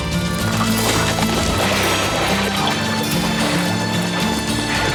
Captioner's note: water splashes